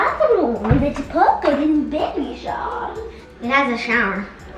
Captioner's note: excited indistinct noises